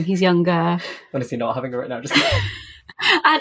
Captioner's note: laughing